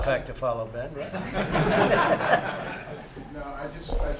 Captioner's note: laughter